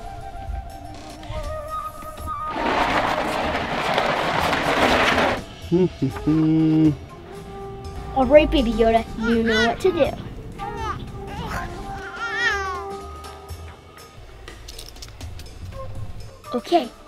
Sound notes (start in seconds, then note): 5.5 dad hums; 10.6 baby babbles; 13.7 light hearted music